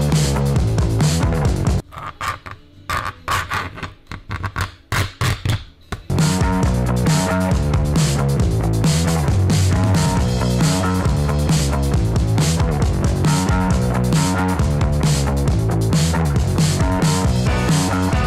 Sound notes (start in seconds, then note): 2.8 blade scratching; 6.4 upbeat music